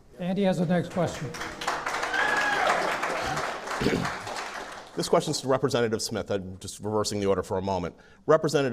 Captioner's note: clapping